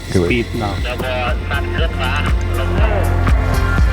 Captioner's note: foreign language